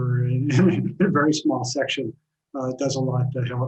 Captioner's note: laughs